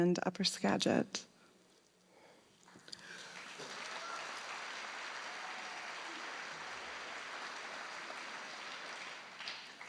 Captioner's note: applause